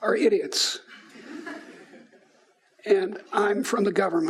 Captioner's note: laughing